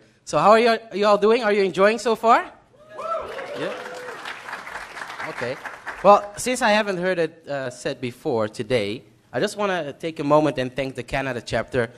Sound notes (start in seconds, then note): 3.0 applause